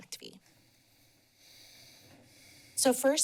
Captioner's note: pause